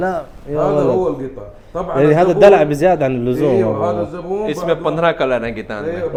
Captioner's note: Arabic